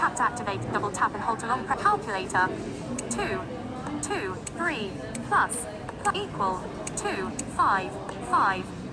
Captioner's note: talkback voice reading menus